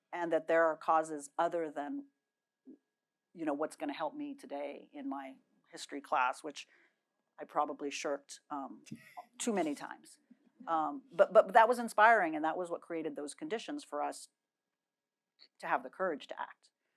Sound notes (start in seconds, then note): none